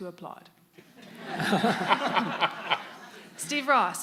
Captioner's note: audience and panelists laughing